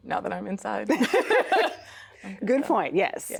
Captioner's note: both laughing